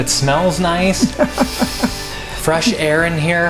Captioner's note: laughing